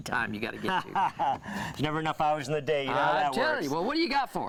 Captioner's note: laughs